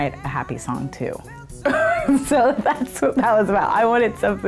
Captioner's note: laughs